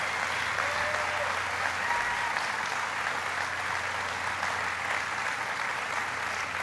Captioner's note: applause